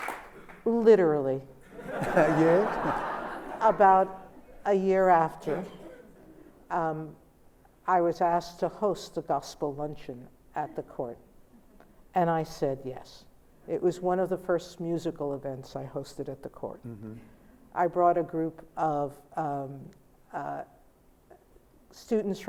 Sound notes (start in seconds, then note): 1.7 laughter